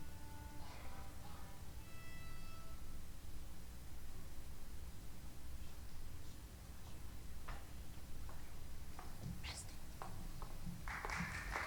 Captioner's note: applause; tuning violin